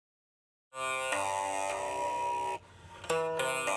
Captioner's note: making a resonant sound